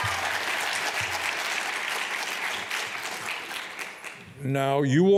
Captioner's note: applause